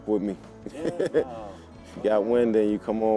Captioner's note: laughs